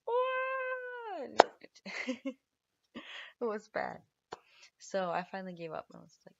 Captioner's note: laughs